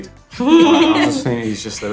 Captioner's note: laughter